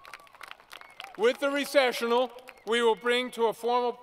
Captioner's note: applause